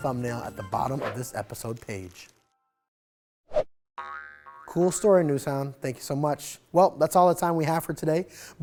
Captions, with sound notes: (air whooshes) (graphic crinkling) (air whooshes) (globe boinging) Cool story, NewsHound. Thank you so much. Well, that's all the time we have for today.